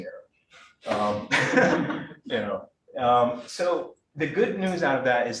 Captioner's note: all chuckling